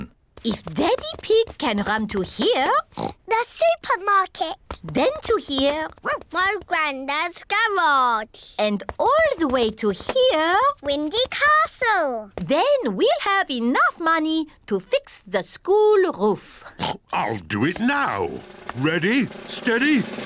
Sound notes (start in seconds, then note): 2.8 oinks; 5.8 barks; 16.8 oinks